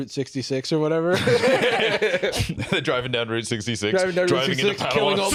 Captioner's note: laughs